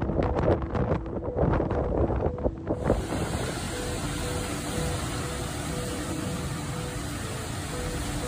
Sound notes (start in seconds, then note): 2.8 heavy rain falling